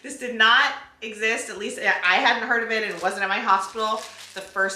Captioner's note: none